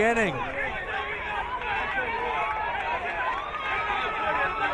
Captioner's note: crowd cheering